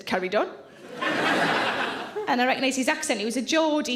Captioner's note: audience laughs